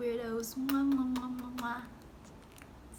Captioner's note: so much kissy sounds!